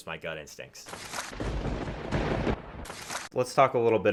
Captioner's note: lightning crashes